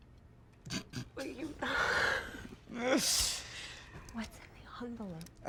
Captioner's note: Alex laughing